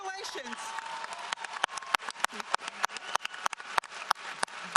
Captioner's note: audience applauds